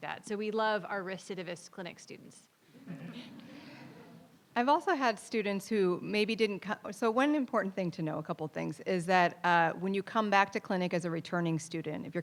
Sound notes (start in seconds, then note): 2.8 audience laughing